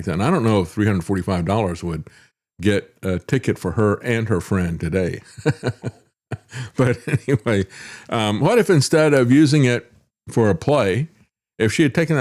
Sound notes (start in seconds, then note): 5.3 laughs